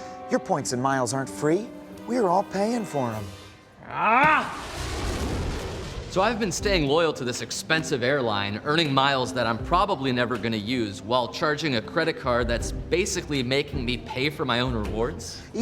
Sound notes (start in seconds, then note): 3.8 groans